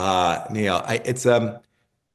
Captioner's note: laugh